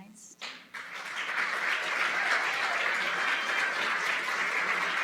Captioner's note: applause